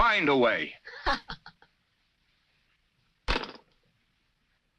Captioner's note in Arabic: ليندا تضحك